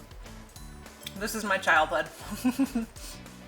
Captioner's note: laughs